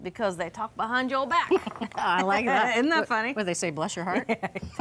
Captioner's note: chuckles